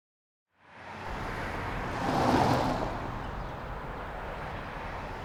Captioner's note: traffic running